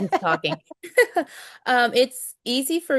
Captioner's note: laughter